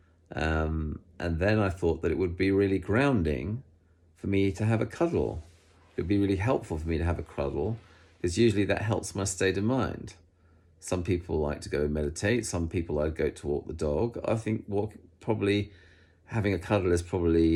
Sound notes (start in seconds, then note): none